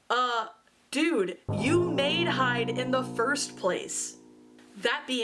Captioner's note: cartoon boing